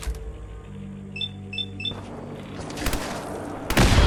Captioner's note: intense ambient music; machine beeping; gunshots firing